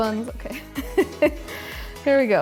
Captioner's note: laughing